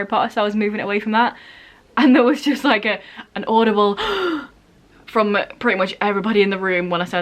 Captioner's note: gasp